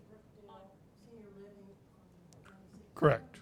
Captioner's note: speaking faintly